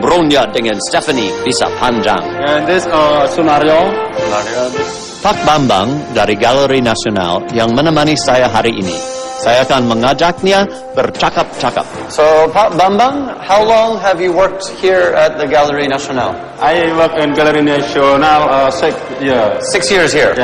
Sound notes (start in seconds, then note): 0.0 non-english speech; 3.9 non-english speech